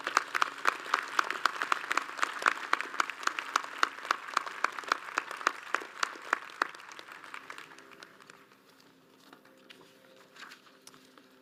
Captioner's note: audience applauds